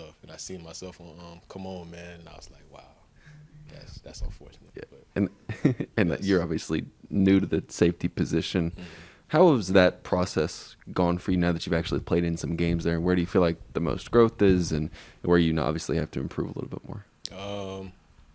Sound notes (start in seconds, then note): 5.4 giggles